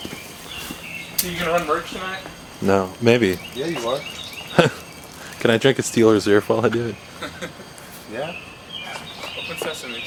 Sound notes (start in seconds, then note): 4.5 laughs; 6.6 laughs